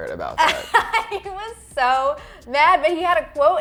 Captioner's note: laughing